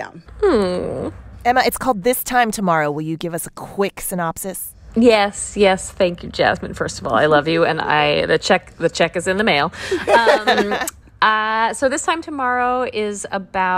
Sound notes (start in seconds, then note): 9.9 laughter